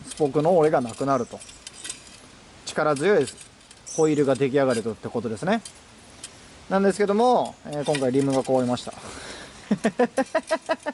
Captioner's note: laughs